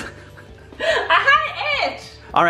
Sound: laughs

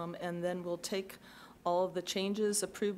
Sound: none

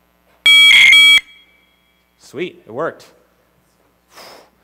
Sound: faster modem shrieking

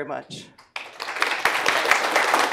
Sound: applause

